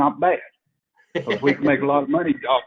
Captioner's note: laughs